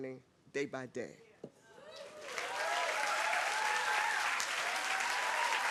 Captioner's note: applause